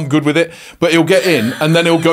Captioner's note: laughs